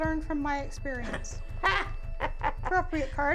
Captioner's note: laughs